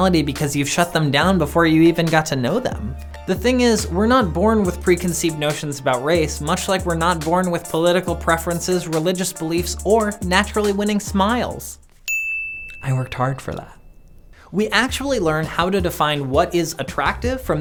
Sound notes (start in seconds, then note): 12.0 ding